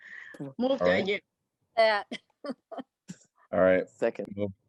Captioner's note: laughter